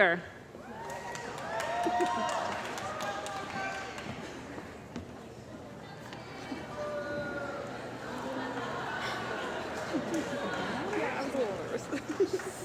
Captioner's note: cheering & Applause